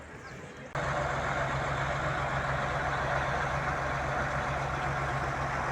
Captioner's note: tractor engines running